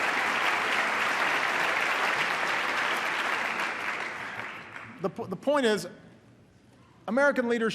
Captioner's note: applause